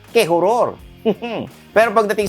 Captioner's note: spooky laugh